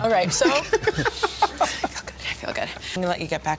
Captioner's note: laughs